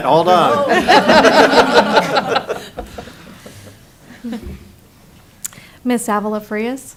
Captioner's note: laughing